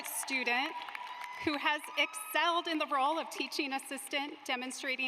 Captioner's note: applause